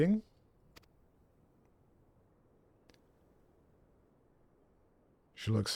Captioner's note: silence